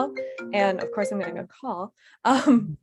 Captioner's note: cellphone ringing